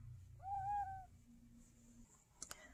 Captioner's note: tiny cat meow